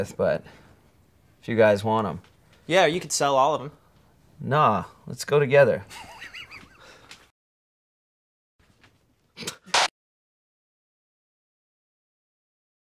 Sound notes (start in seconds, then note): 5.8 laughter; 9.4 laughs